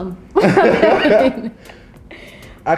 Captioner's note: both laughing